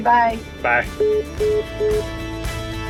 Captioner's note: phone beeping; upbeat music continues